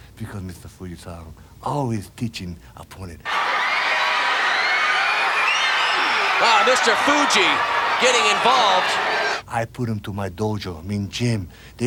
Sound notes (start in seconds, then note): 3.2 audience cheering